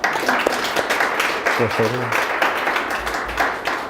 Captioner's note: audience applauds